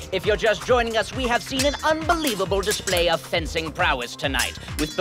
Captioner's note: none